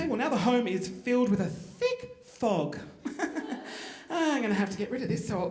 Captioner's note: chuckling